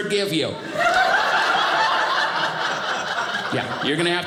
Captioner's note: audience laughing